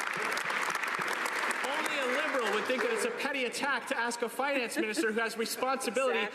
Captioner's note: some Applause